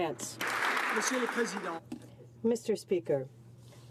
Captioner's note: some Applause